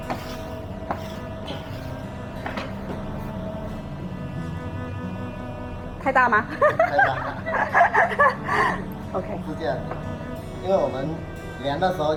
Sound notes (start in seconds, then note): 6.4 laugh